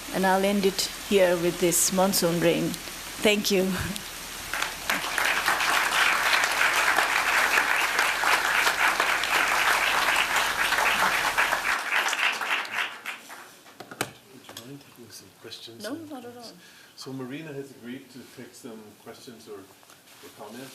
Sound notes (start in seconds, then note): 4.5 audience claps